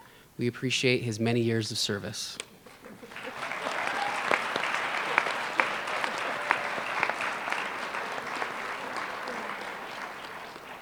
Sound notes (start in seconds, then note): 2.9 applause